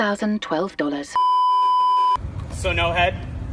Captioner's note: beeeeeeeeeeeep